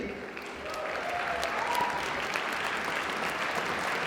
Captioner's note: applause